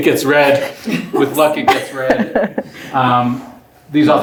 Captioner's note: laughs